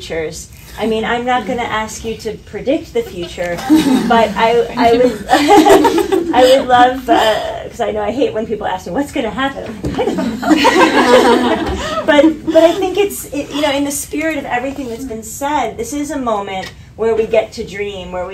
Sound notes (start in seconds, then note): 10.1 audience laughter